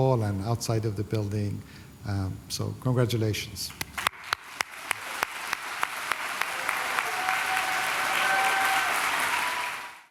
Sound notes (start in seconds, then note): 3.9 applause